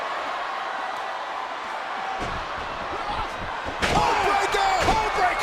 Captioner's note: crowd murmuring